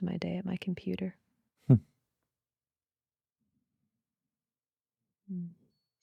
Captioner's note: chuckles